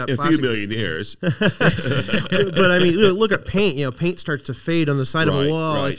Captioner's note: laughing